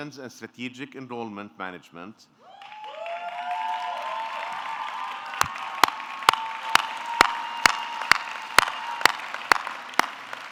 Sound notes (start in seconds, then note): 2.5 audience cheering; 2.5 audience clapping